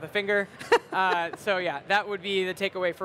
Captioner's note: laughs